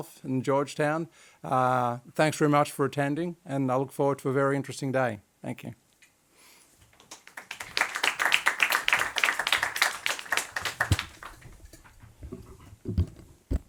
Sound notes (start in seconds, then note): 7.0 audience applauding